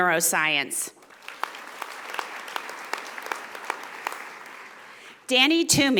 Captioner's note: audience applauding